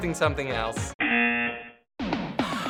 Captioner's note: buzzer